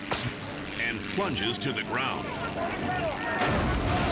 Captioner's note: power line snaps; people yelling; helicopter exploding